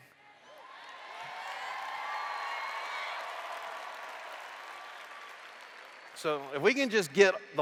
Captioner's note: cheers